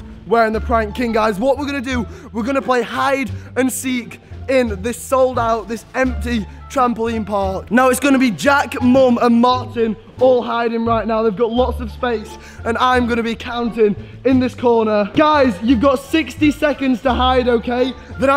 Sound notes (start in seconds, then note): none